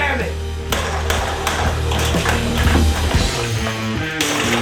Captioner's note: banging sound